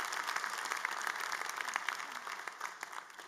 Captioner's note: applause